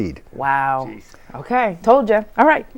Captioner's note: laughing